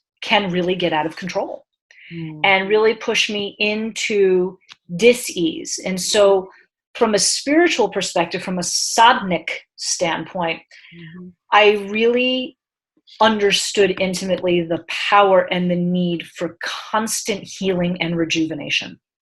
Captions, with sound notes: can really get out of control and really push me into dis ease. And so from a spiritual perspective, from a (speaking in foreign language) standpoint, I really understood intimately the power and the need for constant healing and rejuvenation.